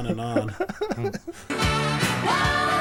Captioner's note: laughter